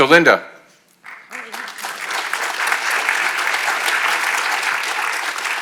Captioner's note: attendees clapping